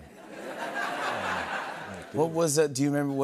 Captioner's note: laughter